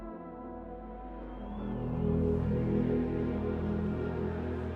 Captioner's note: cheering